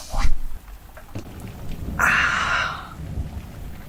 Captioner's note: norm sighs